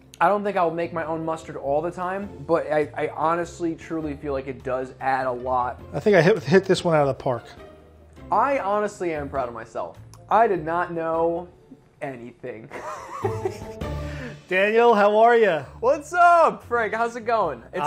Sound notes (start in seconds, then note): 12.7 laughs